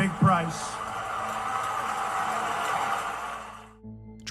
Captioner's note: applause